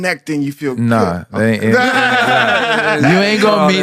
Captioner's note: laughs